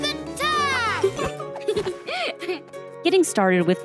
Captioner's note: giggling